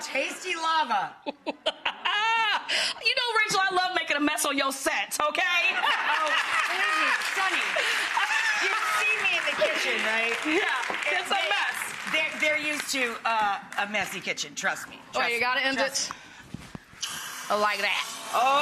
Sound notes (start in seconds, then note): 0.0 crowd laughs; 1.2 Sunny laughs; 5.7 Sunny laughs